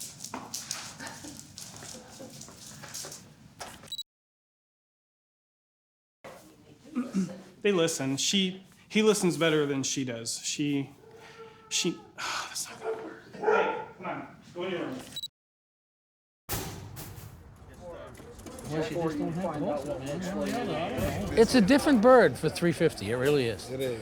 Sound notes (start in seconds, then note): 0.1 dog nails clicking; 6.9 clears throat; 11.0 groans; 12.7 dog barking; 15.4 electronic beep; 16.6 metal clanking